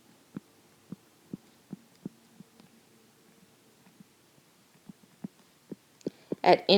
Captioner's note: silence